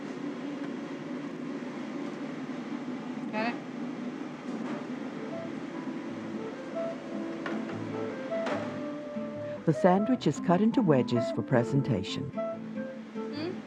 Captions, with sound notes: Got it? - [Voiceover] The sandwich is cut into wedges for presentation.